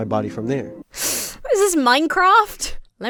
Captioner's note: sucks her teeth